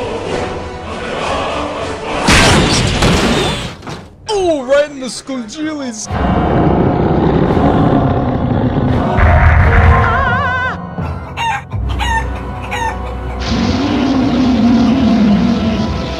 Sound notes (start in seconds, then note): 2.0 squeak; 2.2 crash; 6.2 threatening rawr; 13.5 raaaawr